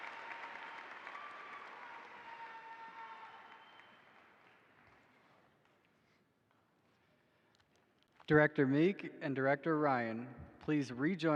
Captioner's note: applause